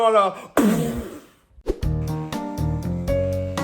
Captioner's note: explosion sounds